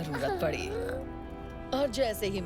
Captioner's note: whimpering